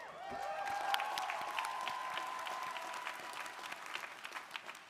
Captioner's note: crowd applauding